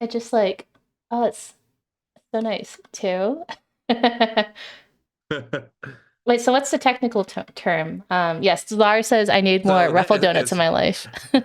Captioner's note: laughs